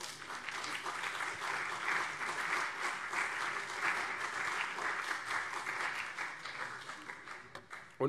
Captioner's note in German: Beifall CDU und vereinzelt SPD